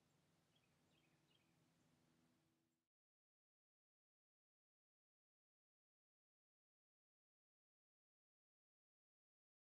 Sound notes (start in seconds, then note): 0.4 birds chirping